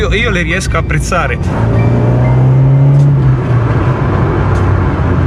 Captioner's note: 2.0 TwinSpark Roars